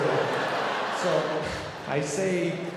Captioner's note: audience laughing